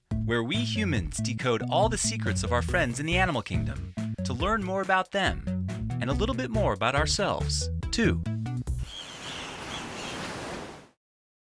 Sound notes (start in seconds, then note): 8.8 birds chirping; 8.8 waves crashing